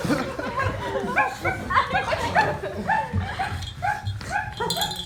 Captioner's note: puppy barking